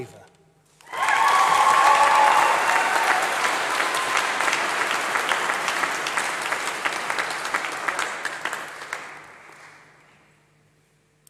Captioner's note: applause